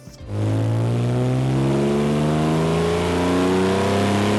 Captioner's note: engine revving